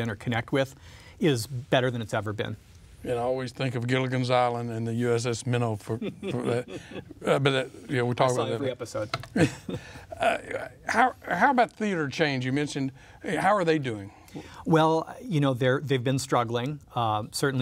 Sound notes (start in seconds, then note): 6.0 laughs